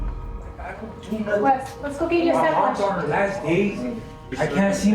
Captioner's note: indistinct chatter